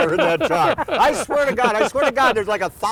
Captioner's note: laughter